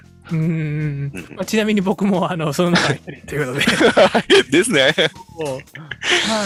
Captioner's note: laughs